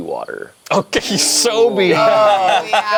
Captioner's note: group laughs